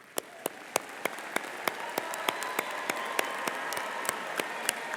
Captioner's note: audience applause